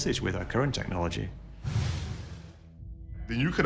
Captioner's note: whoosh